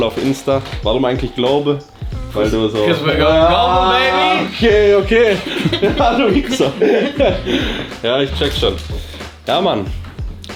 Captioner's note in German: gelächter